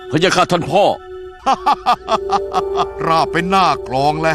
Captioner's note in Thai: หัวเราะ